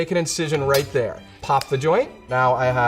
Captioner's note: chicken joint pops